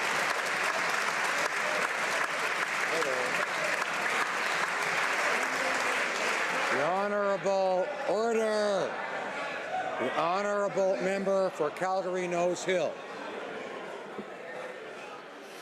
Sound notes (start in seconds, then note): 5.2 some applause